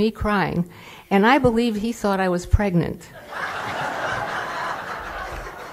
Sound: laughter

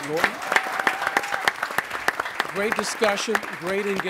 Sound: audience cheering

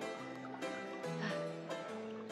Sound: sighs

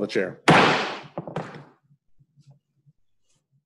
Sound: bangs Gavel

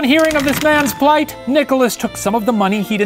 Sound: rattling

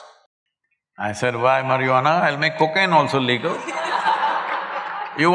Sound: laughter

